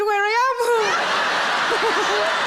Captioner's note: crowd laughing and clapping; laughs